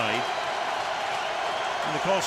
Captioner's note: cheering